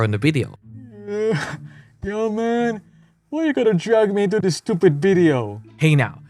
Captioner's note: yawns